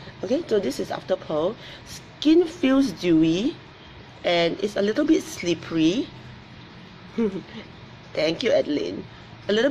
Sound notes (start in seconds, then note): 7.1 laughs